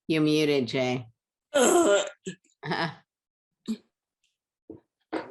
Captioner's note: groans